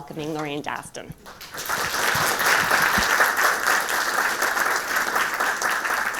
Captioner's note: attendees applauding